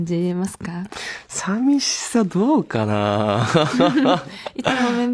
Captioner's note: laughs